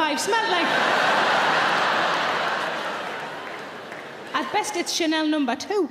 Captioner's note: audience laughing